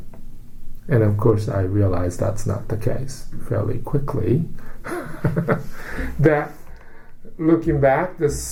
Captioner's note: laughs